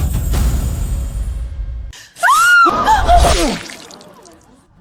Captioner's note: screaming